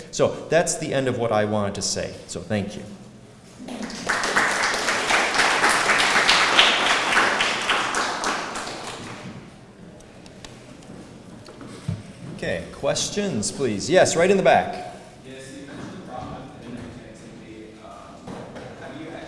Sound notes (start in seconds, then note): 3.7 applause